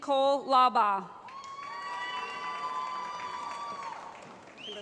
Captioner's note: cheering